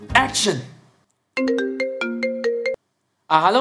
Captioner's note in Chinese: 电话铃声